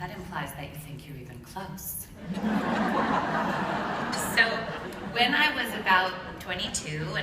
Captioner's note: laughter